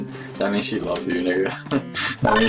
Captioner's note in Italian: ridacchia